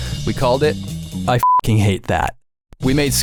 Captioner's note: beep